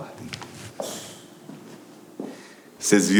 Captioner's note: footsteps